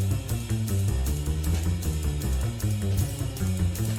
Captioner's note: none